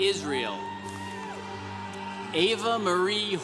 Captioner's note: congregation cheering